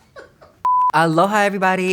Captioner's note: staff laughs; beeps